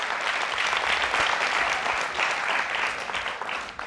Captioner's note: applause